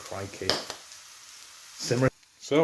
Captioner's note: pop!; pow!